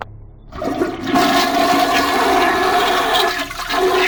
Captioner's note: flush